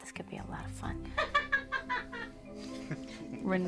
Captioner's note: all laughing